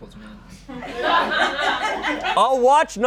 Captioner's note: audience laughing